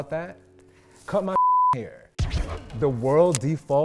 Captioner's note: beeps